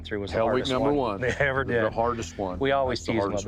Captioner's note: laughs